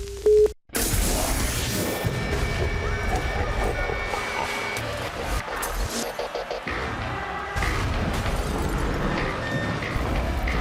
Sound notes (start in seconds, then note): 5.7 evil laughter